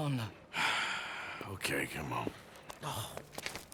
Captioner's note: sighs